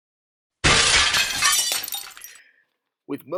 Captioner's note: crumbling Material Noise